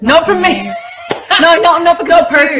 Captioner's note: laughs